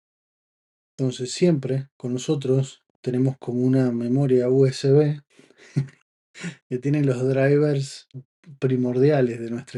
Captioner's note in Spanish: risas